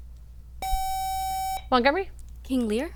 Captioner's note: buzzer